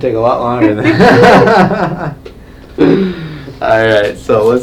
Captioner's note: chiropractor laughing